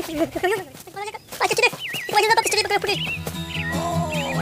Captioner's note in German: aufgeregtes Gebrabbel